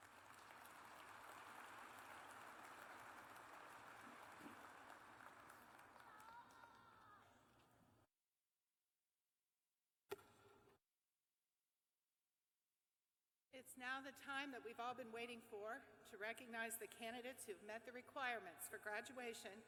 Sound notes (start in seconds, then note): 3.8 applause